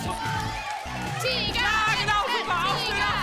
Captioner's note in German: Anfeuerungsrufe